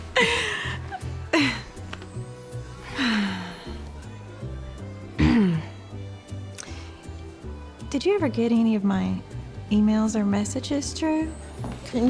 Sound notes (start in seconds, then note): 5.2 clears throat